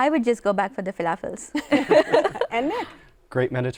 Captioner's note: laughter